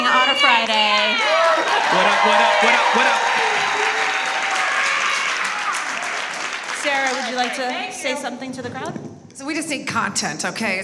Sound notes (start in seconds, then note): 3.9 audience applauds; 5.0 cheers